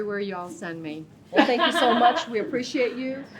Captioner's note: laughing